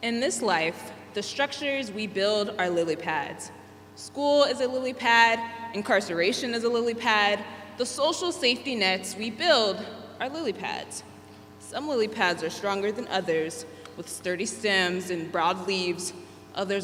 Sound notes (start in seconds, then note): none